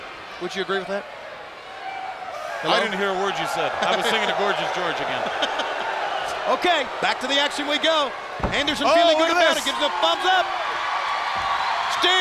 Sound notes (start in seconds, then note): 5.5 Tony chuckling; 11.1 crowd cheering